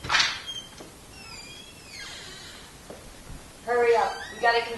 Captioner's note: door creaks